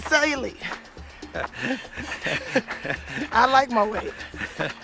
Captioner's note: laughing